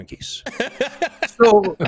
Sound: laughter

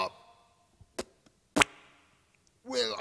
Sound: spits

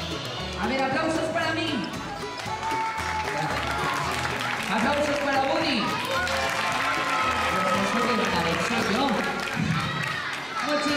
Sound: claps and cheers

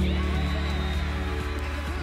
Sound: whistle

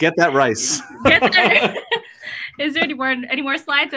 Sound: laugh

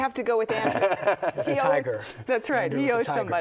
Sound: laughs

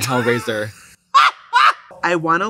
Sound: Trixie laughs

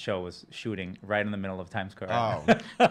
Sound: laughing

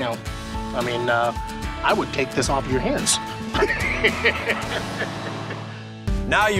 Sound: laughs

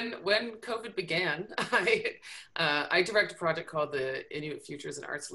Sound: chuckles

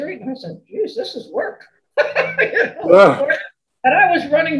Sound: laughs

